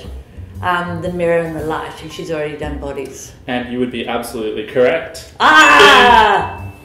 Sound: ding!

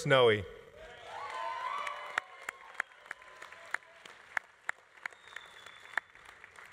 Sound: audience cheering; audience applauding

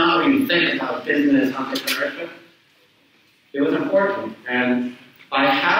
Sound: speaks away from mic

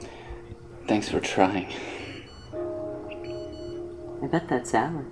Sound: beeping

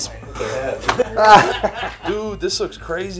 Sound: crew laughing

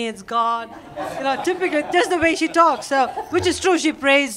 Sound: laughter

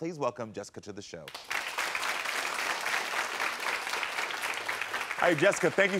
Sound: audience applauding

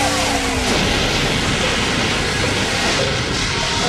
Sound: blast sound

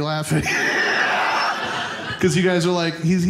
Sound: audience laughing

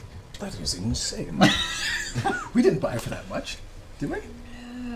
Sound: quietly

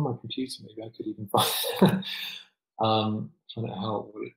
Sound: laughs

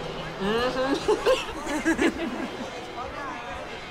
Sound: laughter

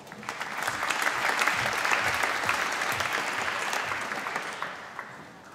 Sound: applause

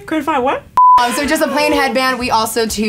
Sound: beeps

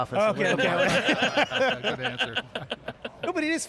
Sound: all laughing

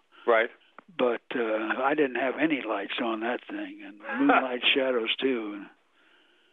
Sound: laughs

